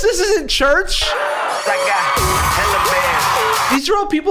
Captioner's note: crowd dances and cheers